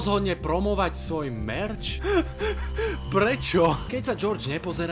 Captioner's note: laughs